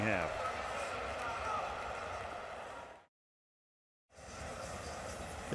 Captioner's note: pa announcement